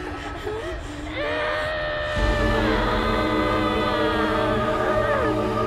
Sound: Brigit screaming

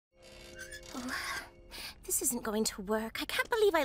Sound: sighs

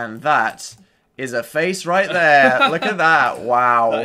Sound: laughs

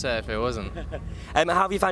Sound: laughs

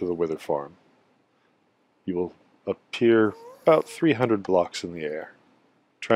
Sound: ghast moans

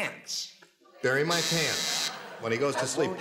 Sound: buzzer

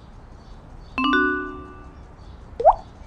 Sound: text message sound

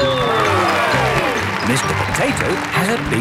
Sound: cheering

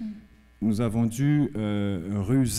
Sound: speaking french

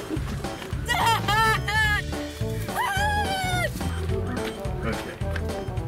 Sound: screams

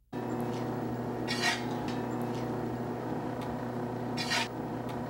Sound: machine humming; metal scraping

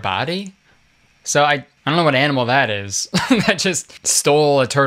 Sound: laughs

